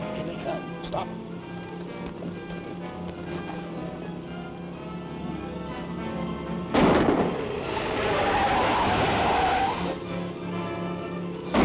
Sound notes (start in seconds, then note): 6.7 gunshot; 6.8 tires screech; 11.5 gunshots